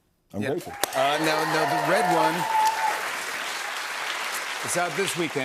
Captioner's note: cheers and applause